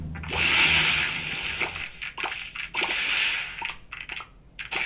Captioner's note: video game sounds